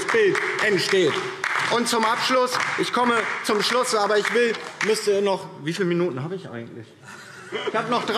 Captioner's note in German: Beifall DIE LINKE